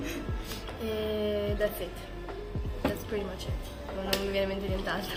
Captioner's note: in English